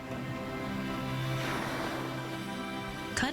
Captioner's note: whale blowing